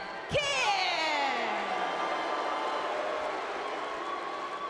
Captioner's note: audience booing